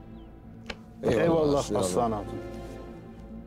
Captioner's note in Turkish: Hep bir ağızdan